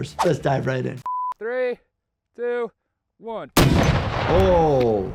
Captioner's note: ballistic missile blasting